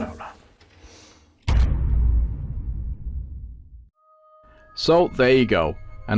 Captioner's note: sound FX